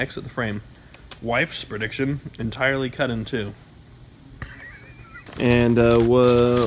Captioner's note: laughs